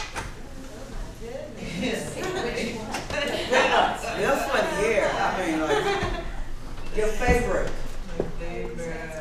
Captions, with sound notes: oh my goodness which one [laughter] This one here. I mean like your favourite My favourite...